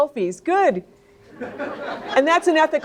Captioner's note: audience laughing